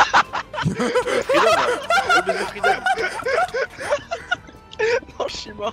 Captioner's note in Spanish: ríete